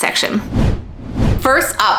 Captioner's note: digital whooshing